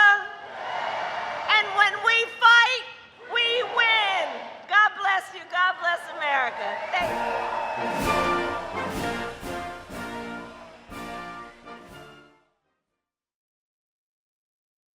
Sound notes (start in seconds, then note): 11.3 applause